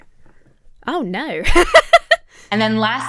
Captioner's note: laughing